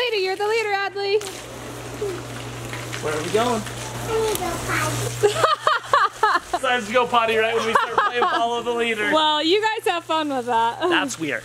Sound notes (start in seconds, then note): 5.2 laughter